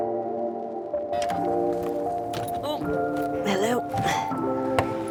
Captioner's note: simple, reverberant music; clicking